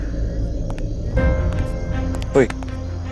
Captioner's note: Footsteps